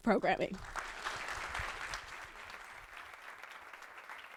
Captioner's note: applause